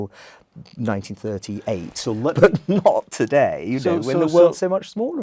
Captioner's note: laugh